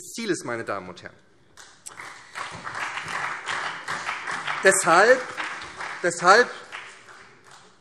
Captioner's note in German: Beifall SPD und BÜNDNIS 90/DIE GRÜNEN